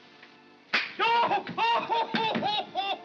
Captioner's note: snap; Ollie yells in pain